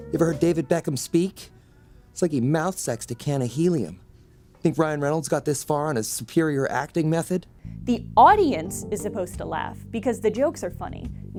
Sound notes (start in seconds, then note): 3.9 silence